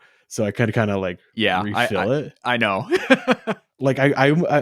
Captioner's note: laughs